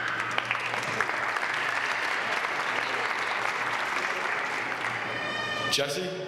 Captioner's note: applause